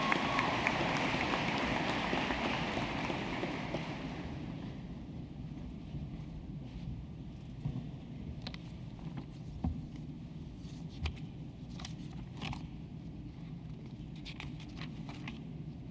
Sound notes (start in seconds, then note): 3.7 applause